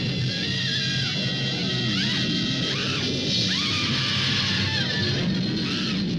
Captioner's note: woman screaming and crying